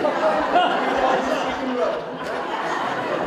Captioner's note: audience Laughter